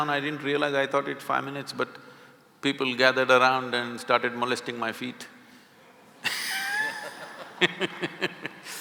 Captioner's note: laughter